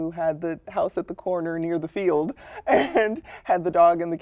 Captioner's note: laughter